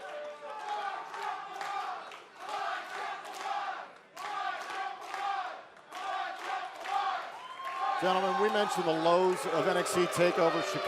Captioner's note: fans chanting